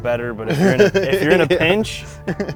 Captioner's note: laughing